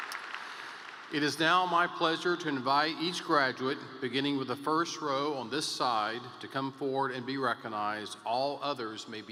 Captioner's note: applause